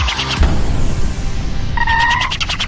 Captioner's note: explosion